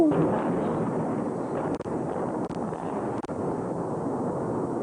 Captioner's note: demolition explosion